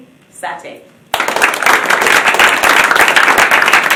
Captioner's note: applause